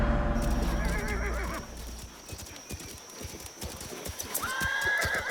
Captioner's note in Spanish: Relincho